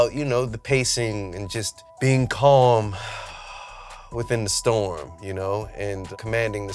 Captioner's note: exhales